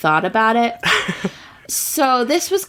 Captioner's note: laughs